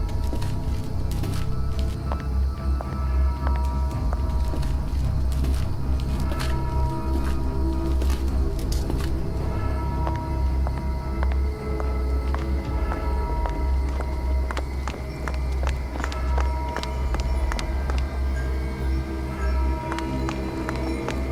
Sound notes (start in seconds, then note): 0.1 suspenseful music; 5.3 footsteps hastening; 9.4 suspenseful music; 11.3 footsteps hastening; 15.3 suspenseful music; 17.1 bells ringing